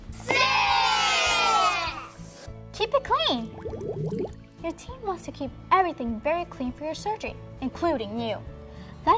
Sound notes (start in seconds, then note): 3.3 water bubbling